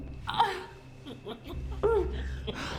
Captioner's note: Claire groans; Byler chuckling